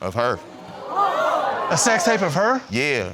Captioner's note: audience gasping